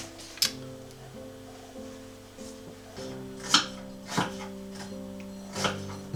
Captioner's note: annoyed tut